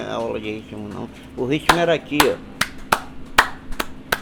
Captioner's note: claps a beat